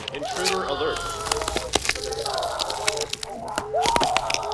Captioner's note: man On PA; bodies crackling; alarm blaring in the distance